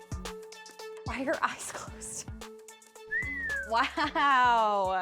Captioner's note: whistles